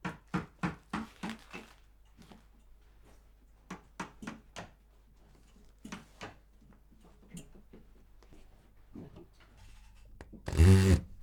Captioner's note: popping